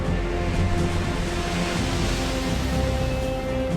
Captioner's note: waves crashing